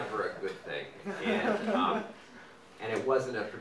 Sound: audience laughing

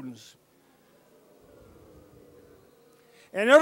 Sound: booing

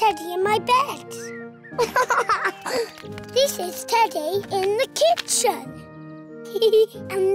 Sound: giggles

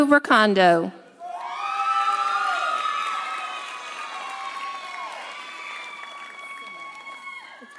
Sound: audience cheering; audience applauding

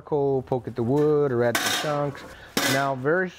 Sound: grill clanking

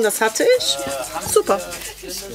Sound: babble of voices

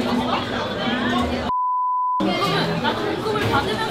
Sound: beep

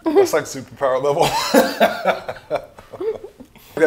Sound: laughing

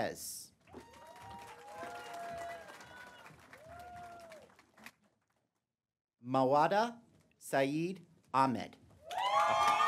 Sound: applause; applause

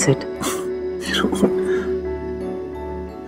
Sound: Rohit laughs

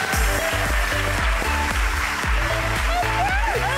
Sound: audience clapping

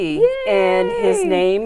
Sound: laughing

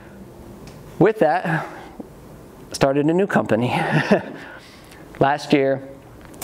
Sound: laughs

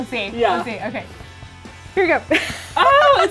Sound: laughing loudly

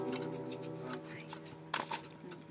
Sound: whispered

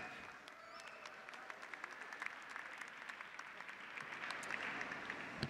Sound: audience applauding

